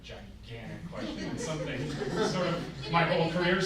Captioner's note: group laughs